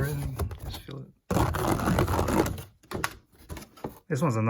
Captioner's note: fingernails run across plastic